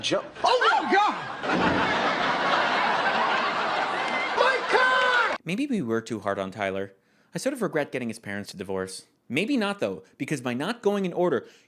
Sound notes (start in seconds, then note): 1.4 crashing noise; 2.9 studio laughter